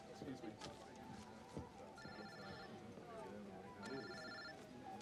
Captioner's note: cell phone rings